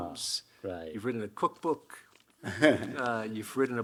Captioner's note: Hiroshi chuckling